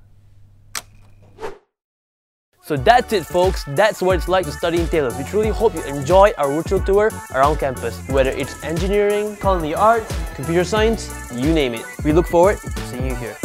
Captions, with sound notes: *Click* So that’s it folks! That's what it’s like to study in Taylor’s. We truly hope you’ve enjoyed our virtual tour around campus. Whether it’s engineering, culinary arts, computer science, You name it! we look forward to seeing you here.